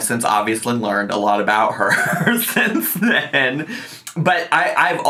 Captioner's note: laughing